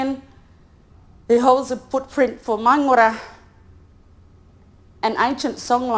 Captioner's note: speaks in foreign language